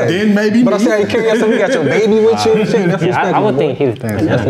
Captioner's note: guests chatter